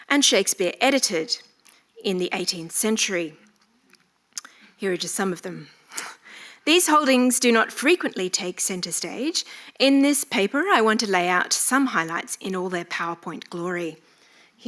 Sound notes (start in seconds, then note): none